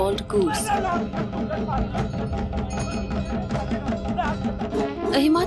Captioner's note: intense drumming; bells jingling